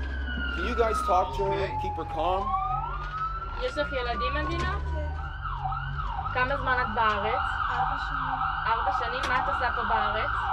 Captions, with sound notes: Can you guys talk her, keep her calm. (medic speaking foreign language)